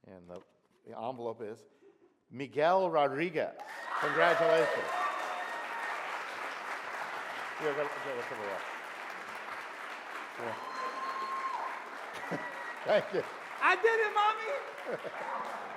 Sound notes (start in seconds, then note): 5.7 audience applauds